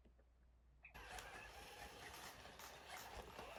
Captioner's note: gears whirring